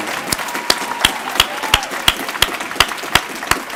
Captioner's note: applause